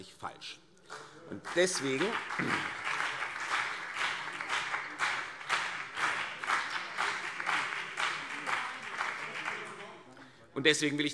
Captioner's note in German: Beifall CDU und BÜNDNIS 90/DIE GRÜNEN - Zuruf CDU: Hört, hört!